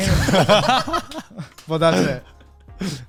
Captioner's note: all laugh